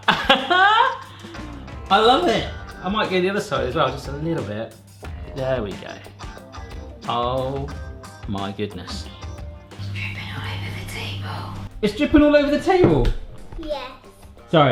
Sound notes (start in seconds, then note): 0.0 laughs; 10.4 whispering